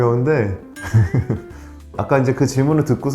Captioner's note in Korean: 웃음